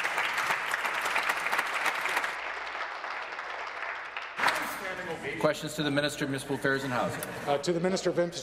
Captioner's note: applause